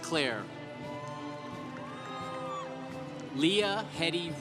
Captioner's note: congregation applauding